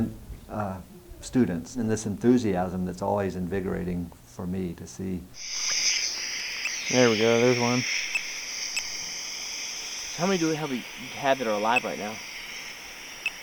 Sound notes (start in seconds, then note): 5.3 hard static; 9.3 beep...beep